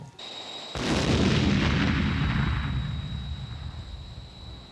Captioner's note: explosions booming